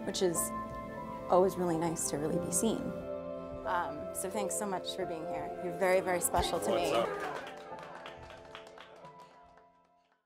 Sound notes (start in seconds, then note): 6.4 applause